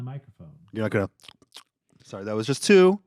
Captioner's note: smacks lips